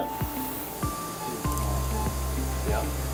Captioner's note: lively music; tools whirring